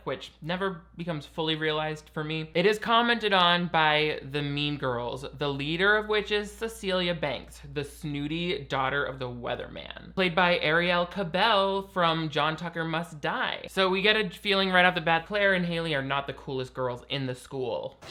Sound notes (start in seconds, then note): none